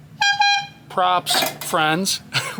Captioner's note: horn blares